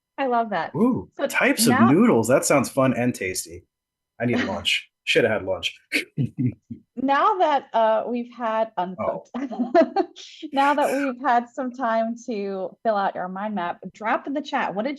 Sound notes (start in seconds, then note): 5.9 laughs